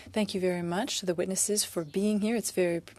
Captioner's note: speaking French